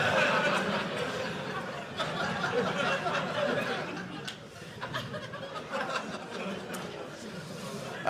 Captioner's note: audience laughing